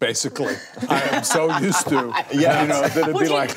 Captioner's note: laughs